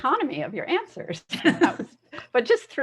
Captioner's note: laughs